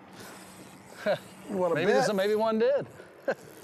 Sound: reel zinging

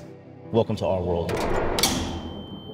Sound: gate latching

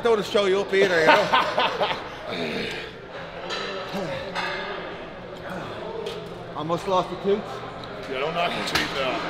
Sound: laugh

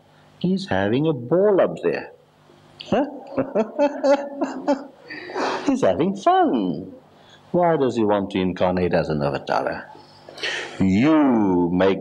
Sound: laughs

